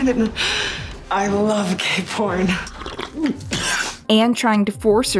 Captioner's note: Lito chokes on his coffee